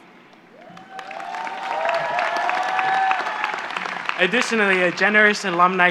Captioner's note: applause